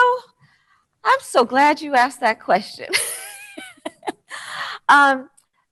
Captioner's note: chuckles